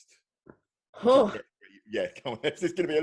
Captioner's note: sigh